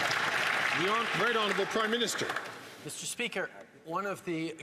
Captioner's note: some Applause